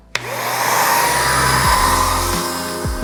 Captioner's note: paint gun whirring; relaxing R&B music